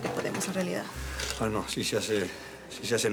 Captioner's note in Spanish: none